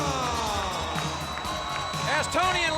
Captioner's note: audience applauds and cheers